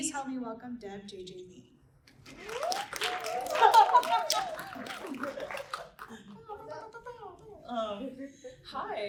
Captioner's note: applause and laughter